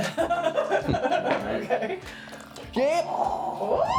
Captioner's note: laughing